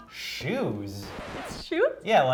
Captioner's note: record scratch